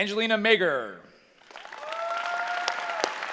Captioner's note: cheering